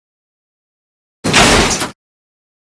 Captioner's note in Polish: trzask